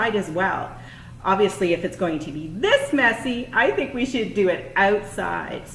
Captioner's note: voice a bit loud with a smile on face